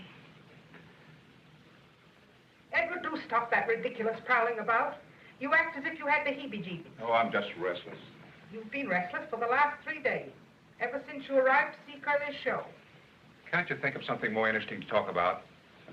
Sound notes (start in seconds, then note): none